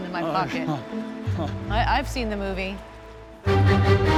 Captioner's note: laughs nervously